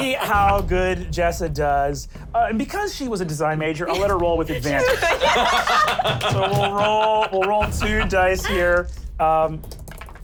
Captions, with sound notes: Let's see how good Jessa does, and because she was a design major I'll let her roll with advantage. (laughter) - So we'll roll two dice here.